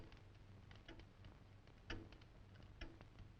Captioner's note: clock ticking